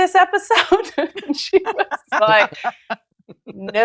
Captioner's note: laughter